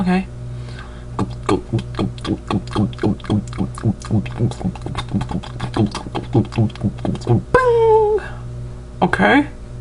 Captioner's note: the sounds of gas pumps